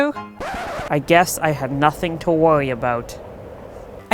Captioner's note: record scratch